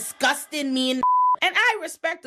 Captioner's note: beep